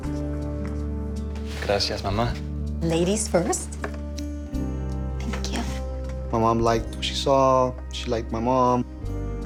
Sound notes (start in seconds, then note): 1.4 speaking Spanish